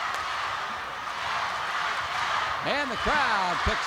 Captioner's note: crowd chants "Go, Scott, go"